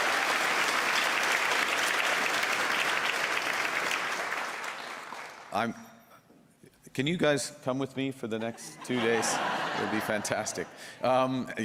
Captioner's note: cheers and Applause